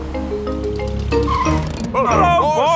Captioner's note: brakes squeal